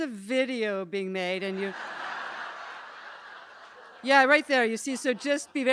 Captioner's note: laughter